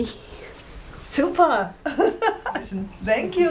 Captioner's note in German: lacht